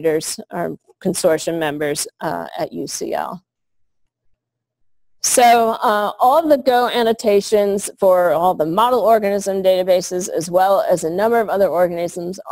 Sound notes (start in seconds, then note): 4.8 pause